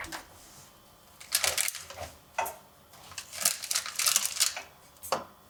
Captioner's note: packaging rustling